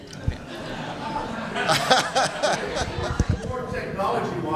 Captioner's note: laughter